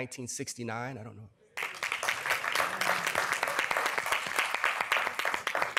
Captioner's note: applause